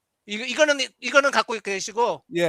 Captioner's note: non-english speech